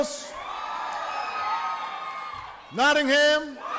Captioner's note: applause